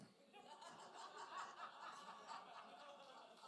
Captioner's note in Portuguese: risos da plateia